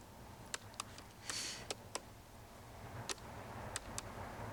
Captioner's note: buttons clicking